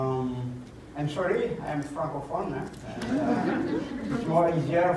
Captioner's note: laughter